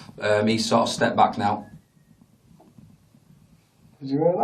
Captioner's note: microphone thudding